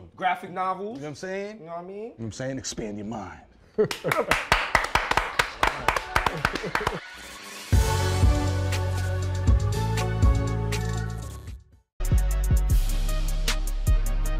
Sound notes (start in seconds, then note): 3.7 laughter; 3.9 applause